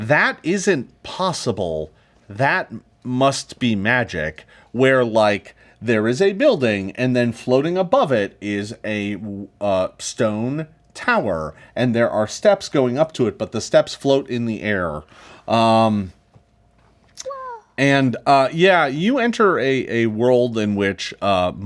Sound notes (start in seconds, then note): none